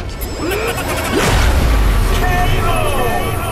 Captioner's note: dramatic music; exclaims